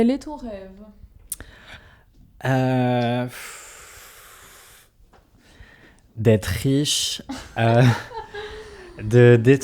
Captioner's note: laughs